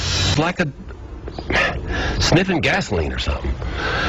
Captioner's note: scoffs